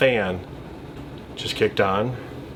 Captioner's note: fan whirring